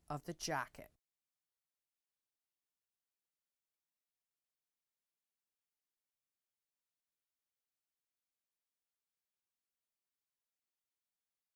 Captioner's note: no Sound Present